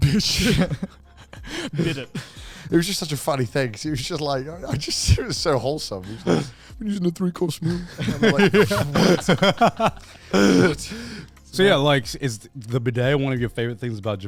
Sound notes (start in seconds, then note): 1.1 laughs; 7.7 all laugh